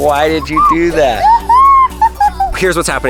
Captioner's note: laughing